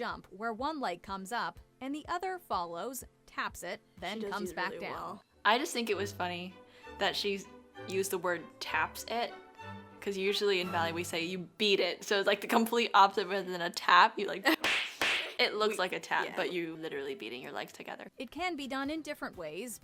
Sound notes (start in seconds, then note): 14.5 violent slap